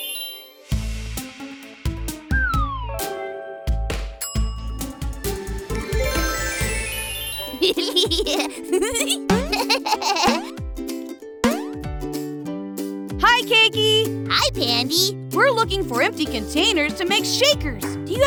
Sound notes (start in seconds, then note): 7.6 laughing